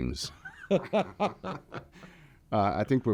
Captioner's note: laughing